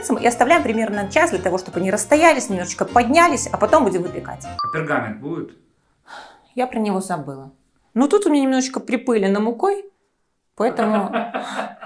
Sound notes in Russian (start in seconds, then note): 5.4 закадровый голос; 10.8 зловещий закадровый смех